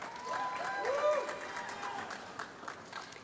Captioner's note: applause